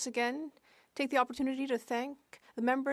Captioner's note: speaking French